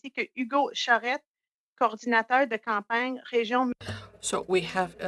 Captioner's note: speaking French